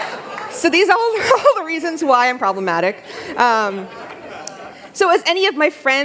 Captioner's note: laughter